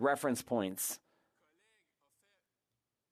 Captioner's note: speaking French